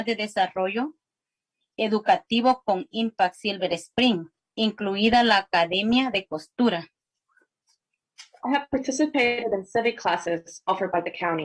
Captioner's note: spanish